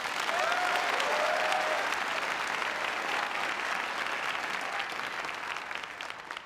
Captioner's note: applause